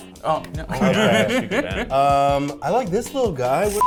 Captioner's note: people laughing